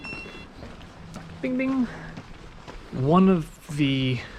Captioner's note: GARMIN chimes